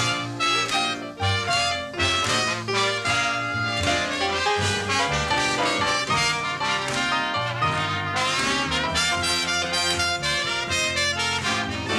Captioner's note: applause